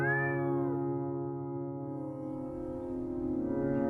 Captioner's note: cat meowing